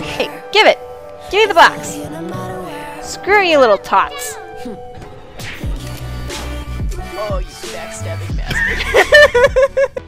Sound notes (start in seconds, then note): 5.0 smack; 8.4 laughter